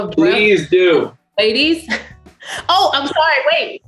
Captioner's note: laughs